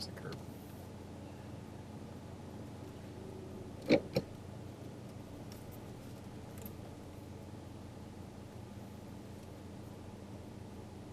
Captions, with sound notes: There's the curb. (gear shift clunking)